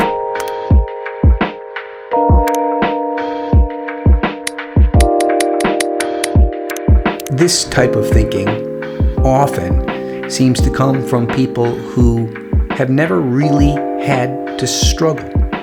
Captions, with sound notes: (ambient chill music) (typewriter typing) This type of thinking often seems to come from people who have never really had to struggle